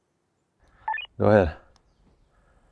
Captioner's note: radio beeping